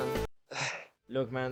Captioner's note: sigh